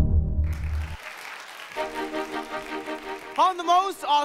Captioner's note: audience applauding